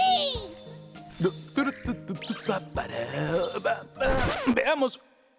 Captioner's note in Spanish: El papá de Molly tararea